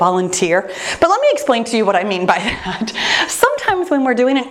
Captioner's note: laughs